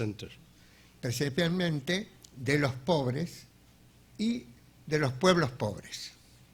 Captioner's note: speaking in a foreign language